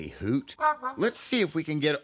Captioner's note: hooting